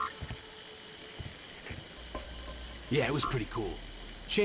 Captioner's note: birds chirping